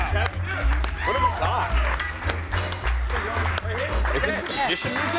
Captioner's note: audience cheers